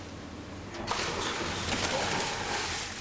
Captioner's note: splashing